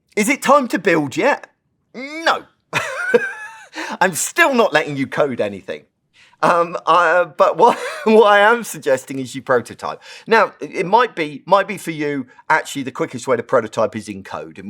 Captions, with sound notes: Is it time to build yet? No, [LAUGH] I'm still not letting you code anything. But [LAUGH] what I am suggesting is you prototype. Now, it might be for you, actually, the quickest way to prototype is in code,